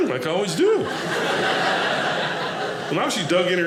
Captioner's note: audience laughing